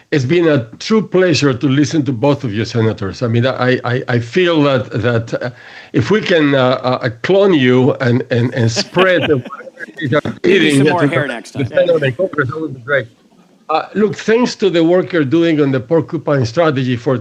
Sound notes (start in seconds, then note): 8.4 laughter